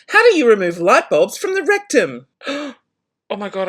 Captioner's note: gasps